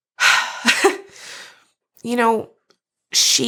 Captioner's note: chuckles